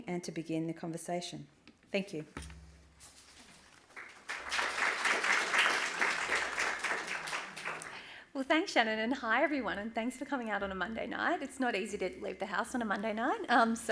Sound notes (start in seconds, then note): 3.9 applause